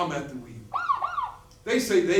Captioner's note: siren